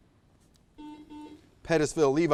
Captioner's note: buzzer buzzes